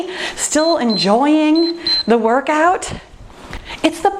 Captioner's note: timer beeps